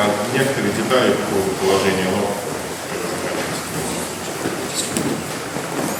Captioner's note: speaking in a foreign language